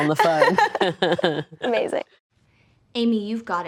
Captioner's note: laughing